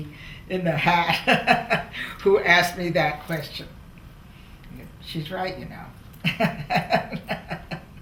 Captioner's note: laughs